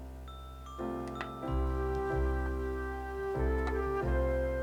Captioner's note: cane tapping the pavement